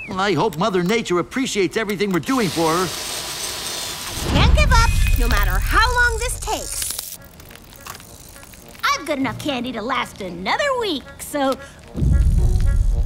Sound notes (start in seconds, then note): 7.1 clicking